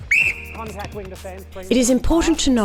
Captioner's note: whistle